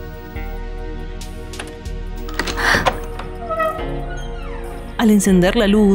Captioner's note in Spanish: Sonido llaves y puerta